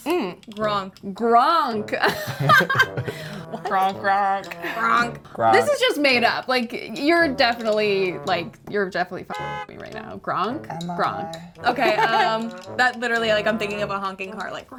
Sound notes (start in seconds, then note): 2.0 laughing; 5.2 laughing; 9.1 horn blaring